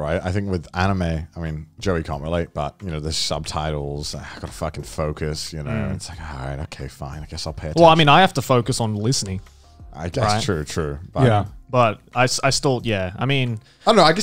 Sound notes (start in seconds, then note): none